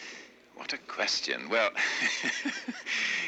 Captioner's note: chuckles